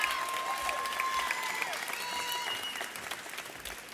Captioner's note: audience cheers